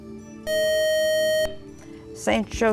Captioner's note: beeping